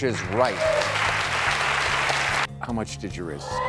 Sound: audience and contestants clap

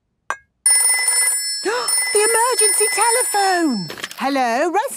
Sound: phone ringing, gasp

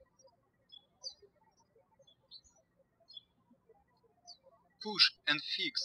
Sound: birds chirping

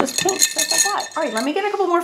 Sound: brushes clang

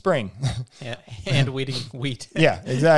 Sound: laughs

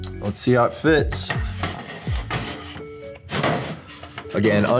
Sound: relaxed music; metal clanks

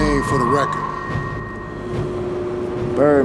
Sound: fan spins

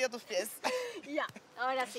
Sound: laughs

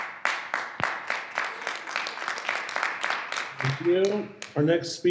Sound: audience clapping

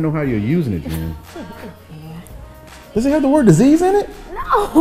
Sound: woman laughing lightly

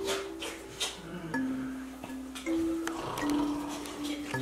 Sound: whispering; ghost snoring

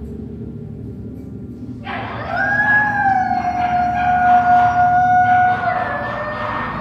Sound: inmate howling

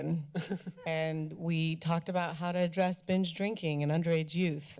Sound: laughter

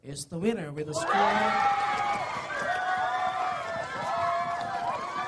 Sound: applause

